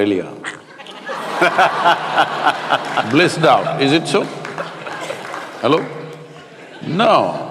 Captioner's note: laughter